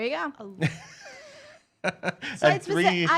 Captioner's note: laughs